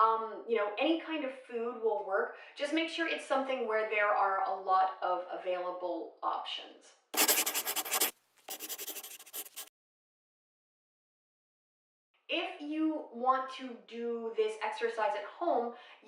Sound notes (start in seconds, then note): 8.4 scribbling